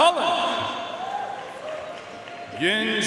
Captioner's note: audience cheering and applauding